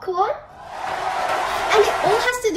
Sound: crowd cheering

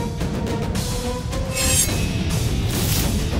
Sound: blade swishing

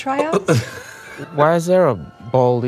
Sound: laughing

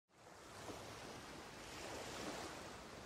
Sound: waves

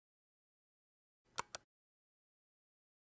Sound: click

